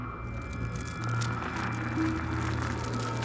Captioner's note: rustling